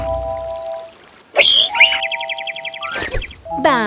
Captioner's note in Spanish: Sonido de pájaro